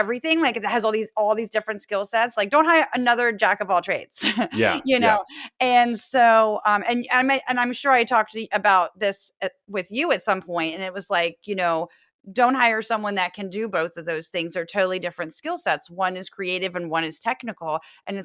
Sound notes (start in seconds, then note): 4.4 laugh